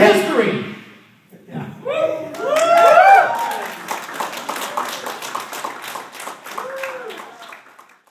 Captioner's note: applause